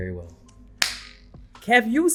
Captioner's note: claps